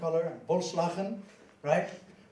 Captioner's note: swears in foreign language